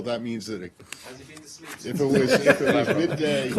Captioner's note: laughter